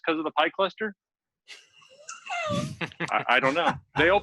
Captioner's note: laughter